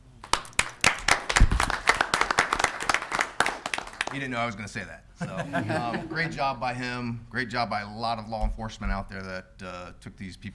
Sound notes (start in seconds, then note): 0.0 clapping; 5.2 laughing